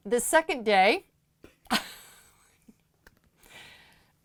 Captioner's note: chuckling